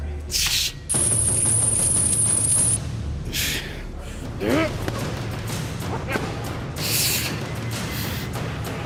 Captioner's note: chains rattling